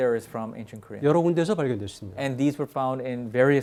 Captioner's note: speaking in Korean